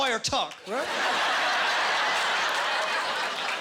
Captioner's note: laughing